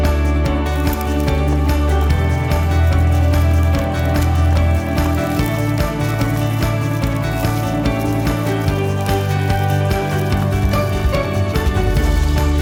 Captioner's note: footstep Sounds